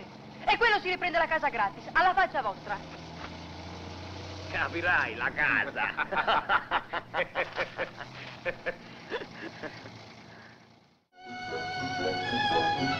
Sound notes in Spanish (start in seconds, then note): 5.6 gino y piero ríen; 11.2 música de fondo